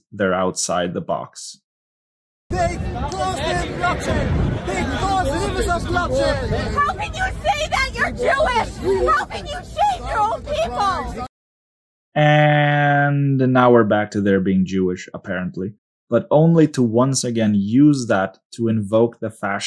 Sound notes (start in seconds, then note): 10.6 people talking in video clip